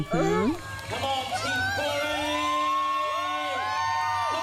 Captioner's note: cheering from the race